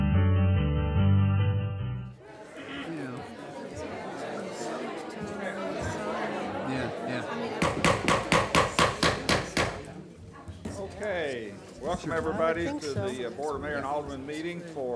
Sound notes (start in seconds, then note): 2.5 murmuring; 7.6 gavel banging